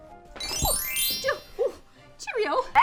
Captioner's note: chiming